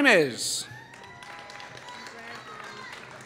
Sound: applause

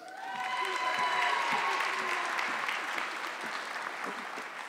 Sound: audience clapping

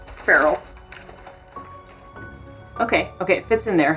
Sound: bag crinkling sounds; background music

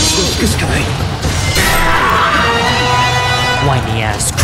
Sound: death Scream

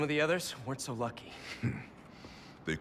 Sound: laugh

